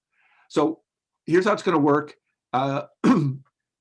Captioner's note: coughs